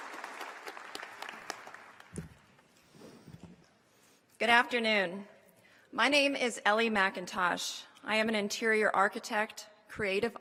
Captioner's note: applause